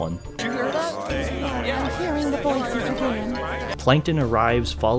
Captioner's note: various murmurs